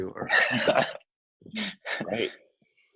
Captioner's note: both laughing